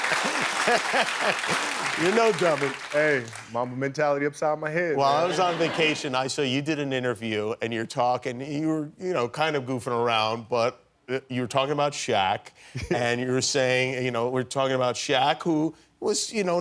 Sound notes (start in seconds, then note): 4.4 applause